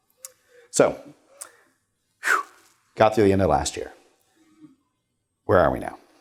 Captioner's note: blows out